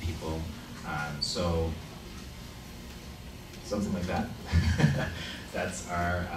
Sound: laughs

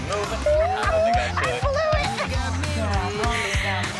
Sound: laughs

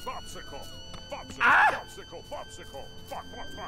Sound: screams

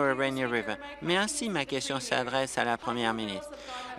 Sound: applause

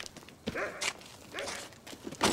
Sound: dog barking

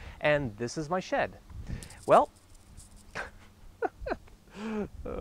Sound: chuckles

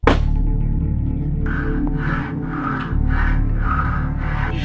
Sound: sawing

